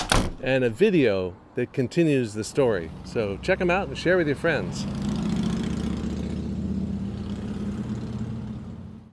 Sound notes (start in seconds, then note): 5.3 motorcycle revving